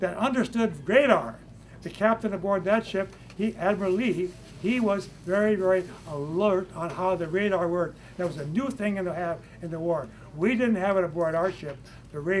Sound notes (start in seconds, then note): none